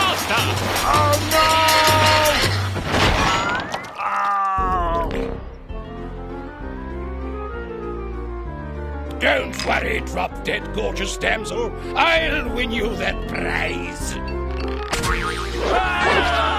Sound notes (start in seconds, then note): 3.9 groaning; 15.6 screaming